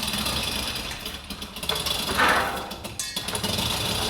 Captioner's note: cranking